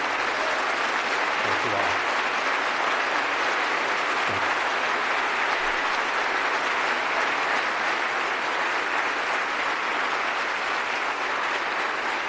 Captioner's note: applause